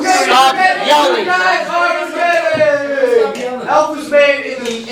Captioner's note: continued arguing